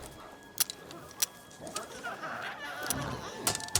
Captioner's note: rocket launcher clicking; glowzies growling